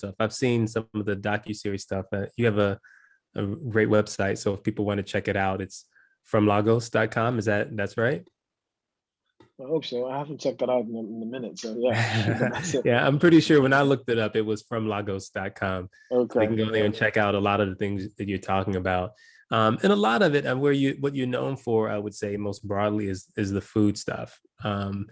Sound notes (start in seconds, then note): 11.7 laugh